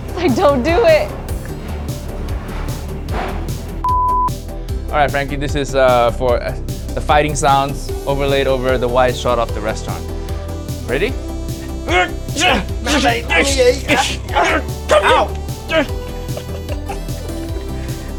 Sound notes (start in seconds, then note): 3.8 video beeping; 11.6 both grunting